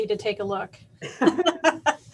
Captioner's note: laughter